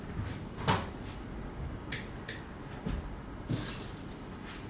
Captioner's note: light switching